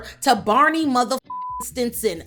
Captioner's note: beep